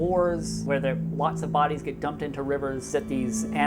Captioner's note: none